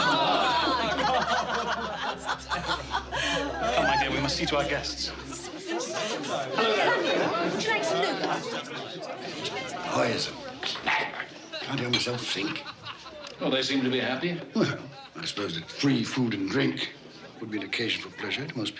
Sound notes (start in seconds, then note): 7.7 talking and laughing